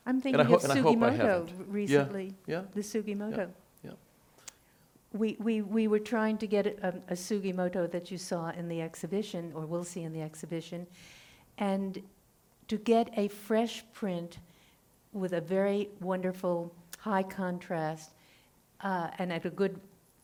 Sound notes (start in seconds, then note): none